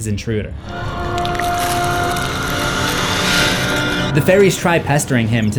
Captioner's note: Pale Man growling